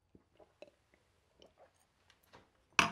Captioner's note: gulping